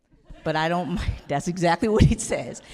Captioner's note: audience laughing